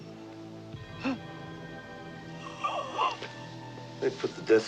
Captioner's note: Nina gasps